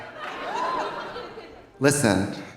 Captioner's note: audience laughing